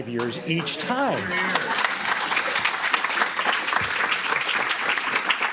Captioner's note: applause